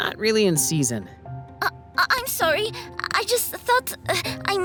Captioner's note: stammers